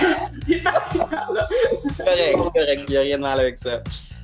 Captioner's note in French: rires